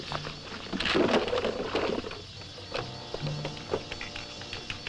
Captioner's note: crate rattling